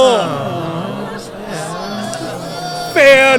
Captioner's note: crowd reacts, boos